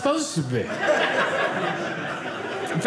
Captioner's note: audience laughing